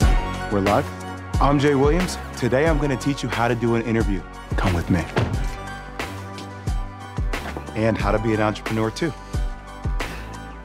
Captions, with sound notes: - We're live? I'm Jay Williams. Today I'm going to teach you how to do an interview. (car door slamming) And how to be an entrepreneur too.